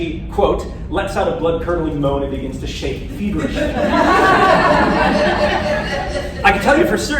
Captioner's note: laughter